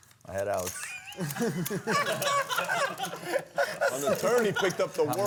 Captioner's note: laughter